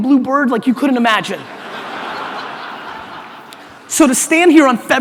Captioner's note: audience laughter